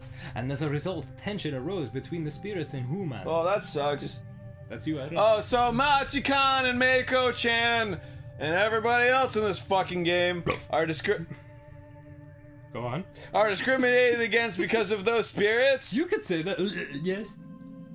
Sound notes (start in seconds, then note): 11.3 silence of disbelief; 16.4 wierd noises of holding in a burp